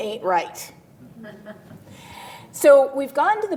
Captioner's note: laughter